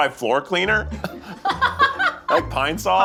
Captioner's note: laughing